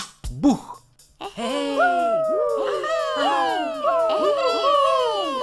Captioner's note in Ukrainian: радісні вигуки